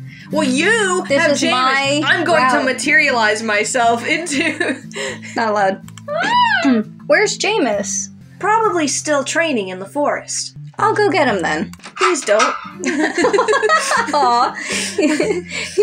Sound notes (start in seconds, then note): 4.3 chuckle; 6.4 whine; 12.8 both Laugh